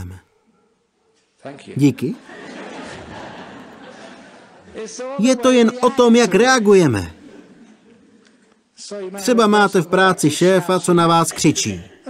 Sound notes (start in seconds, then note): 0.2 dog barking; 2.1 laughter